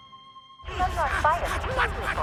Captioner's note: radio